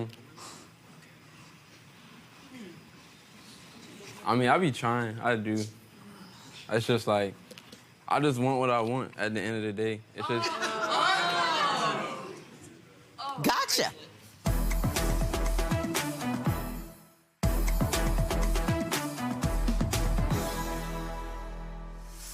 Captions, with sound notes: - Um. I mean I be trying, I do. It's just like, I just want what I want at the end of the day. (audience groaning) - Gotcha. (dramatic music) (dramatic music)